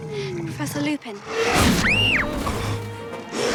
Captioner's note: lupin snarls & hermione screams; roars